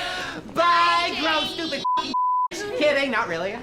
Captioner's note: girls laughing; beep